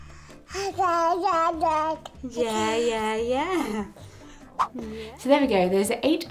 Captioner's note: cooing